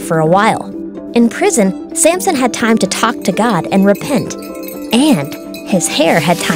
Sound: bars closing, chains rattling; wind chimes

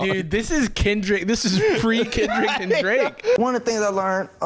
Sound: laughing

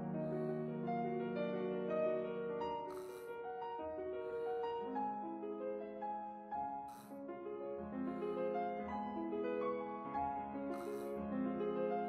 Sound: clears throat

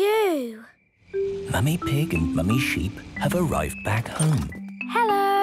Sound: whispering

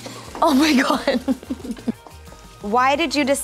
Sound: laughter

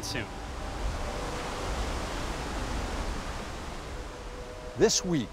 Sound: water rushing

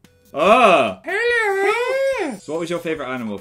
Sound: in creepy voice

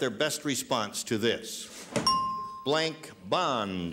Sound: dinging

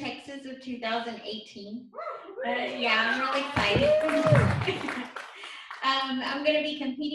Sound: applause

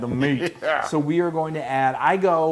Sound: laugh

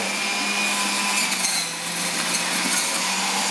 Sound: loud blending

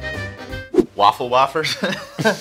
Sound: laughs

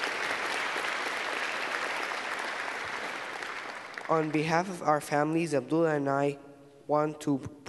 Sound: applause

